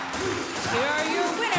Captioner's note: fans chanting